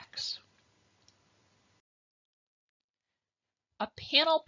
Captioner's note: silence